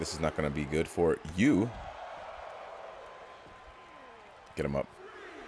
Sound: applause

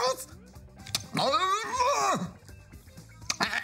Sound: groans

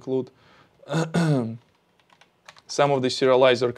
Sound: clears throat

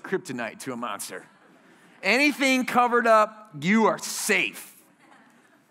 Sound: laughter

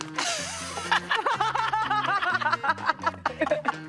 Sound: all laughing

